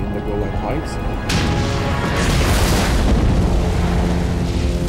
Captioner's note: explosions booming